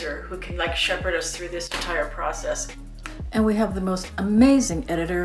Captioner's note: none